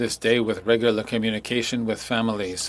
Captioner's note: speaking French